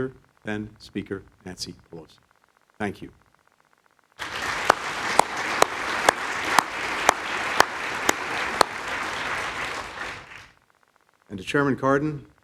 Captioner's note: applause